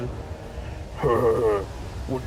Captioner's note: incredibly evil laughter